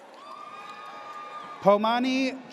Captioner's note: audience cheers